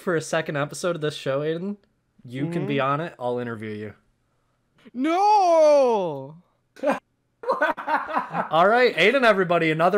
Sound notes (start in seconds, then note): 7.0 audience member laughs